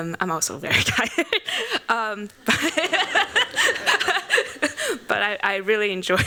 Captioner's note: laughs